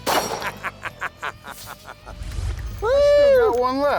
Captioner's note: laughter